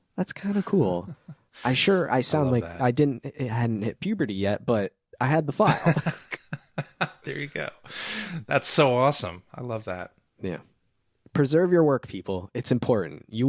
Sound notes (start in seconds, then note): 5.8 laughing